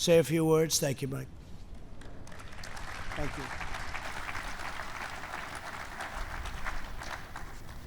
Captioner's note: applause